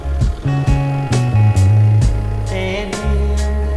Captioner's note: motorcycle engine roaring